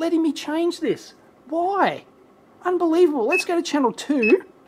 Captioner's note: beeps